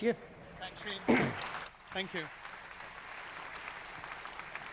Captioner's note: applause